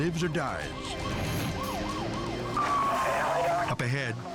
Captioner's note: siren blaring